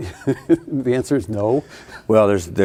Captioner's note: laughing